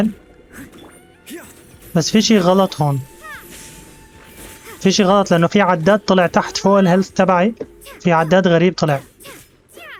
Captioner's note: yelps